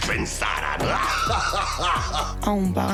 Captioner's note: laughs